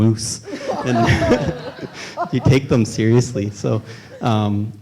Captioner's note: laughs